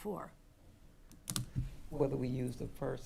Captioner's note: button clicking